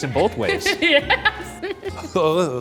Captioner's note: laughs